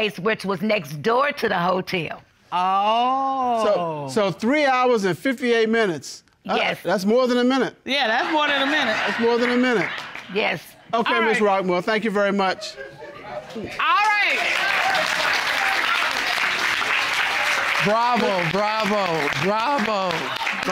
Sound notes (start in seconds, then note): 13.4 audience applauding